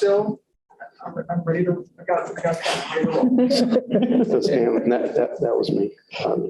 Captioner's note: laughter